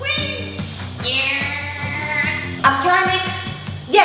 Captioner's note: effort noises